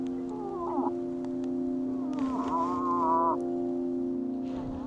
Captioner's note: moose call grunting